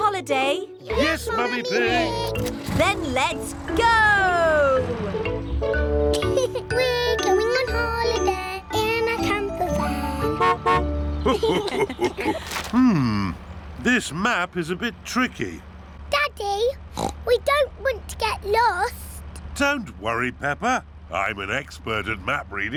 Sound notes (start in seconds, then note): 6.1 laughs; 9.7 horn honks; 11.2 laughter; 16.9 oinks